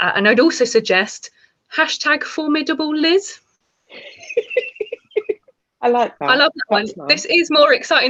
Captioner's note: giggles